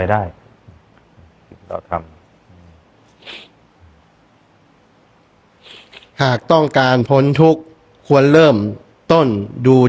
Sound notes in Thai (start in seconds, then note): 3.1 เสียงสูดหายใจ